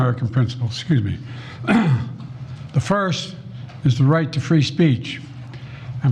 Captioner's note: clears throat